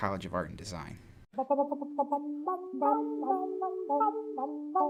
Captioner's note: comedic humming